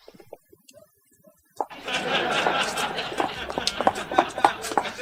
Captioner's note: feet tapping